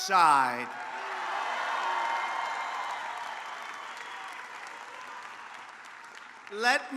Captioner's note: applause